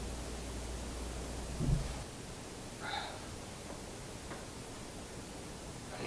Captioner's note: huff